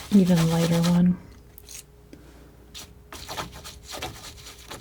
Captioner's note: scratching; scratching